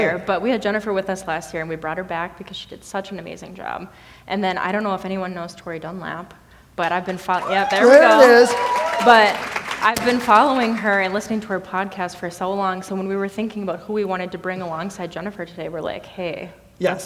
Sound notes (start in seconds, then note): 6.9 audience cheering; 8.7 audience applauding